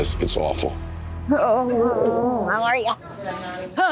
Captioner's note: groans